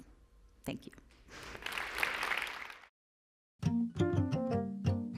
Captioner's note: applause